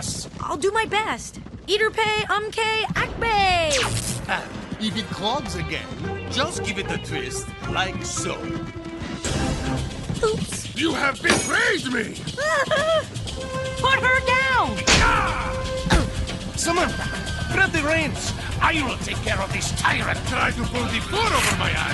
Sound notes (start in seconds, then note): 12.3 whimpers; 14.0 yells